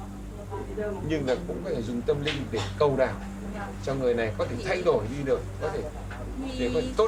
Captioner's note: speaking in foreign language